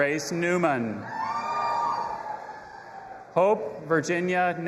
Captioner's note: audience applauding and cheering